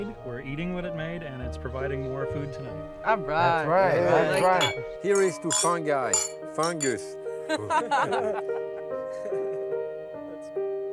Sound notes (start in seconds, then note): 4.0 glasses clinking; 7.5 everyone laughing